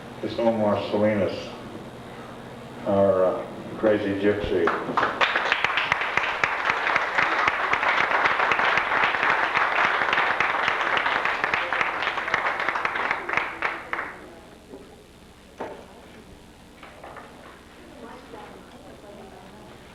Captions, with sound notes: This is Omar Salinas, our crazy gypsy. [applause]